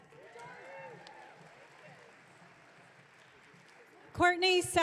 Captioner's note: audience cheering